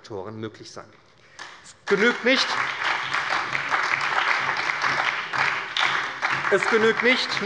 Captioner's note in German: Beifall bei der SPD